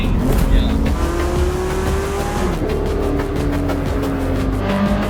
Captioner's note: car engine revving; upbeat music